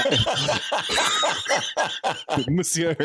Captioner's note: laughs